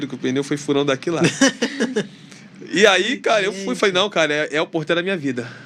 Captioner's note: risadas